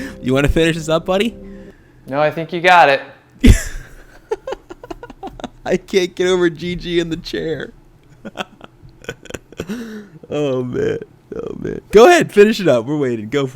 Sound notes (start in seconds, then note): 3.4 giggles; 8.1 laughs